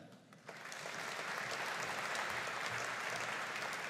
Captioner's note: audience applauding